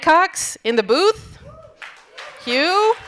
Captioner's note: audience cheering and applauding